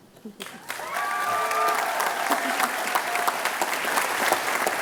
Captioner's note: cheers, applause